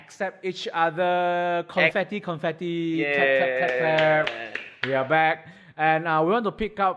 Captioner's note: clap clap clap clap